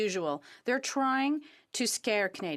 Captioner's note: speaking French